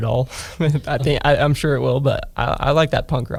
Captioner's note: laughs